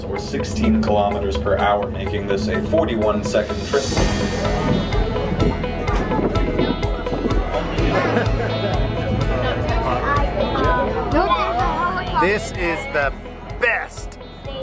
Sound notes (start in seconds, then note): 3.9 exciting music; 5.2 wind blowing; 7.7 laughing; 9.2 talking